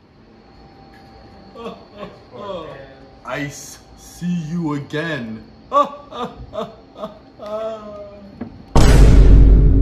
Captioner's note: phill laughting